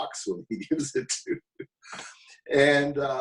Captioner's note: laughing